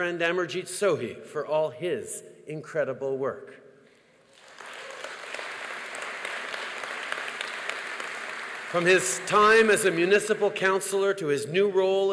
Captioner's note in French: Applaudissements